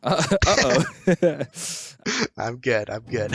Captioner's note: laughs; clears throat